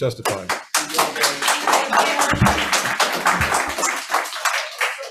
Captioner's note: audience applauds